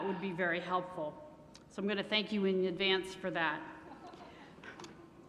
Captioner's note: laughter